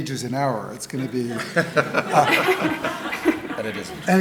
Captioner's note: laughter